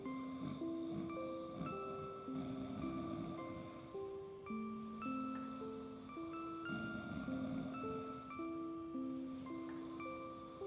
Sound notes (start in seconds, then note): 7.1 snoring; 8.1 soft music